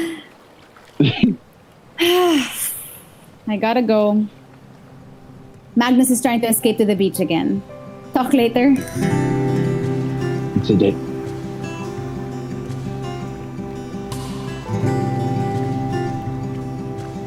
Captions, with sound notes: MAGS [Sighs.] I gotta go. Magnus is trying to escape to the beach again. Talk later? LUKE It’s a date.